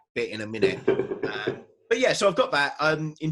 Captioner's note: laughs